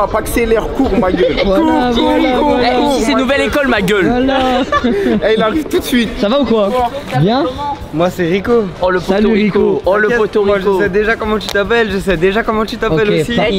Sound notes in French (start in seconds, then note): 4.2 rires